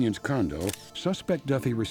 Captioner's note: camera shutters clicking